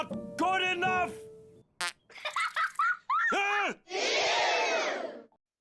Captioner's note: bug farts and gets laughed at by other bugs